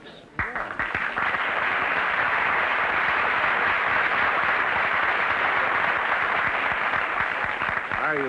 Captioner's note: applause